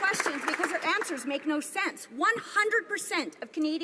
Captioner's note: some Applause